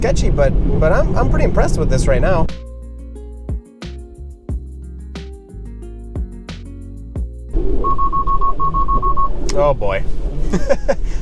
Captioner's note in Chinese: 失敗警笛聲